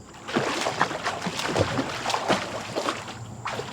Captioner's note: water splashing